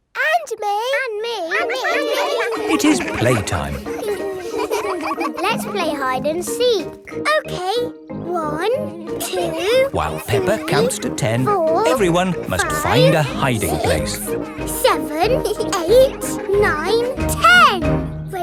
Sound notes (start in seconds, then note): 1.5 all laughing; 4.0 all giggling; 16.0 both giggle